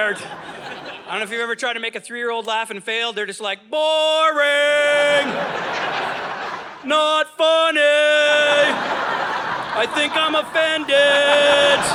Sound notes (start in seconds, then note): 0.0 audience laughing; 5.0 audience laughing